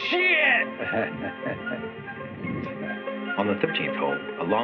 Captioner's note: chuckles